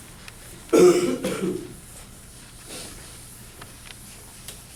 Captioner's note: coughing